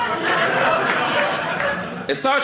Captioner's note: audience laughing